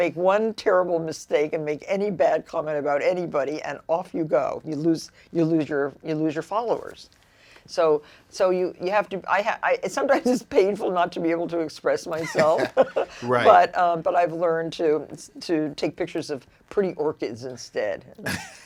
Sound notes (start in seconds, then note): 12.1 laughs